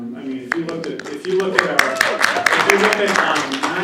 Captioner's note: applause